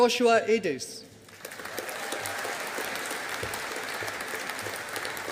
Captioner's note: audience applauding